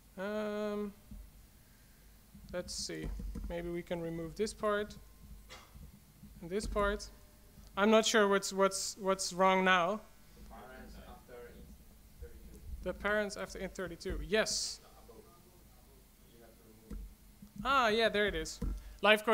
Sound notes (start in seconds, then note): 10.7 voiceover; 15.5 voiceover